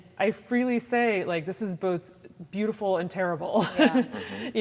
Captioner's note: laughs